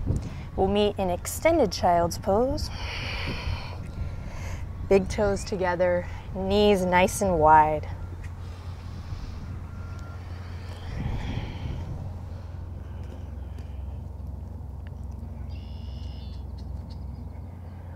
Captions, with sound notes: We'll meet in extended Child's Pose. (takes deep breath) Big toes together. Knees nice and wide. (blows out breath)